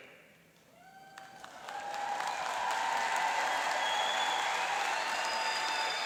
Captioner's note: applauding and cheering